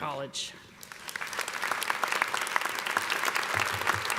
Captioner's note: applause